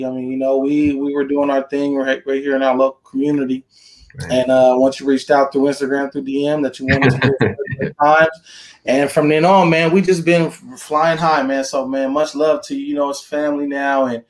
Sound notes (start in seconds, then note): 6.8 laughing